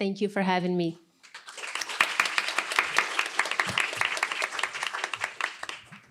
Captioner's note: applause